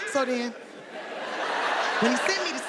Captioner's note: audience laughs